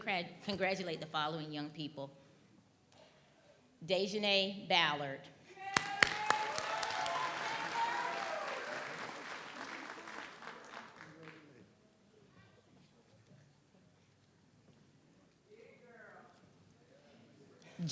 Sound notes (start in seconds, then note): 5.6 audience cheers; 5.6 audience applauds